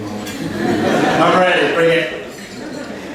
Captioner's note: laughter